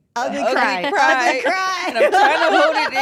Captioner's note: laugh